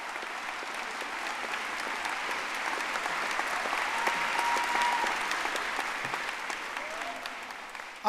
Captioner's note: audience applauding